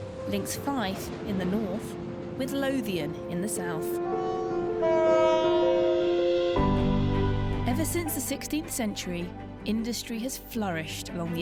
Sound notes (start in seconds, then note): 4.0 train hooting